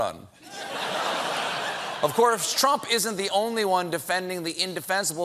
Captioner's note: laughter